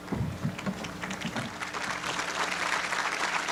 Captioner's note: applause